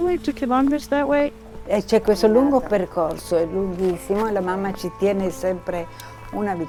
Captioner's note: speaking in foreign language